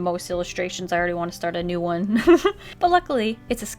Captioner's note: laughs